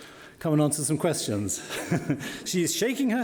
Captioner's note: laughs